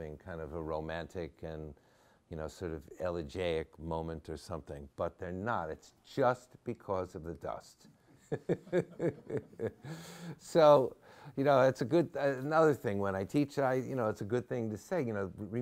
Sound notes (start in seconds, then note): 8.2 laughs